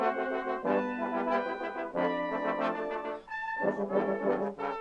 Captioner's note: none